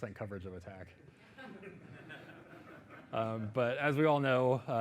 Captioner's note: audience laughing